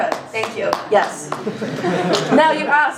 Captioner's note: laughter